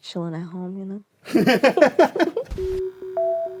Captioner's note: laughter